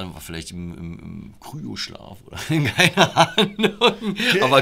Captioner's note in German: Lachen